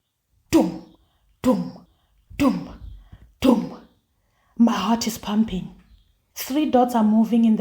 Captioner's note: heartbeat